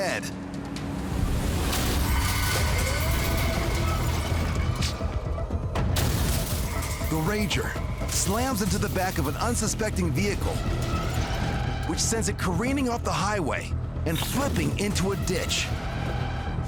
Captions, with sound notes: [tires screeching] The rager slams into the back of an unsuspecting vehicle... which sends it careening off the highway and flipping into a ditch.